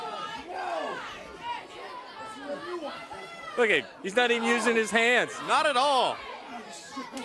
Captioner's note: crowd chatter